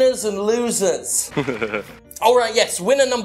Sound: sniggering

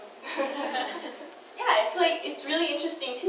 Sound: audience laughs

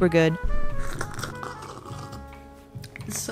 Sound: sips

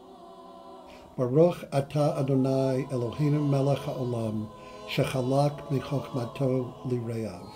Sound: speaking Hebrew

